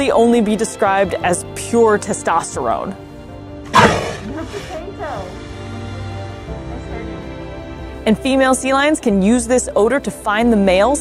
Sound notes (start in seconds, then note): 3.7 sea lion vocalizes; 4.2 background chatter; 4.6 background music